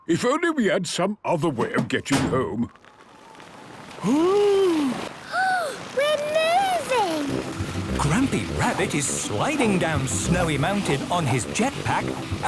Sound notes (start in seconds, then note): 1.6 sliding; 1.6 clangs; 4.0 Peppa gasps